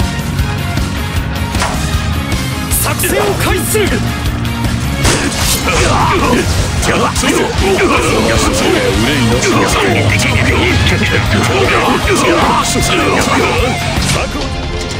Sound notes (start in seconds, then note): 1.6 armor hit